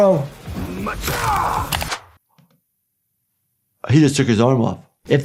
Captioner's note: crunches